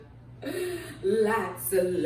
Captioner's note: inhale